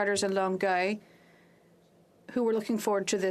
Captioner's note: speaking FRENCH